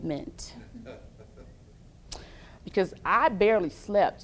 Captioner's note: laughs